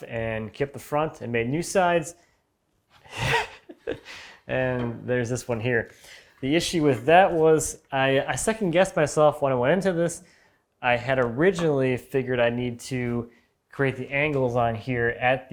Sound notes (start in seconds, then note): 3.0 laughing